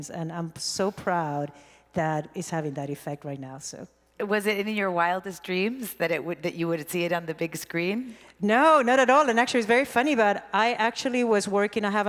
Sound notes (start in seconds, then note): none